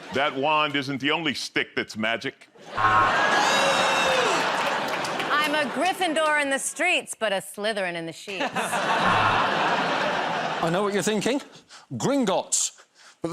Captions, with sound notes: -That wand isn't the only stick that's magic. [ Laughter ] -Hey! -I'm a Gryffindor in the streets, but a Slytherin in the sheets. -I know what you're thinking -- Gringotts.